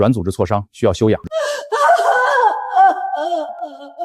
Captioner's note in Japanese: 痛がる声